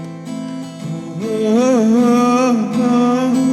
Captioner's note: humming